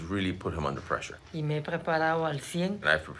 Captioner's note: speaking Spanish